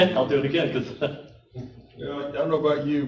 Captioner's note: chuckle